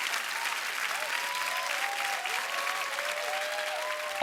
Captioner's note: applause